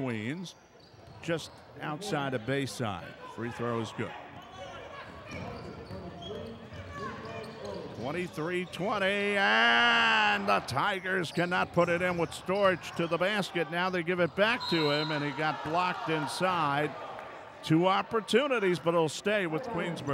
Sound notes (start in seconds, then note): 4.2 shoes squeaking; 4.8 ball pounding